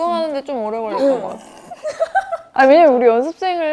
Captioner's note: failing to resist laughing